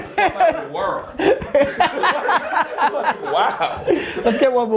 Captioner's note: group laughter